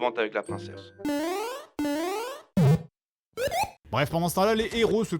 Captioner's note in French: effets sonores Mario au hasard